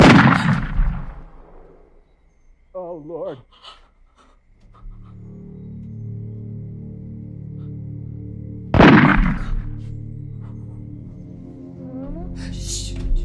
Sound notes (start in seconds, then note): 0.0 gunshot; 8.7 gunshot